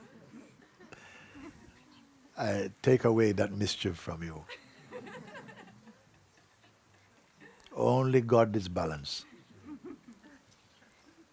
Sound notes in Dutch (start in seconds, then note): 0.0 gelach; 4.4 gelach